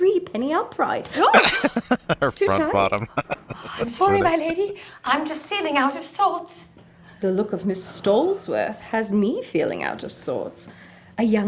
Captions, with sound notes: [Laughing] Her "front bottom!" That's funny.